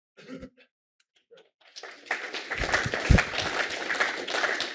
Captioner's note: applause